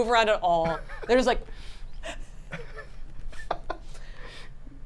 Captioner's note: group laughs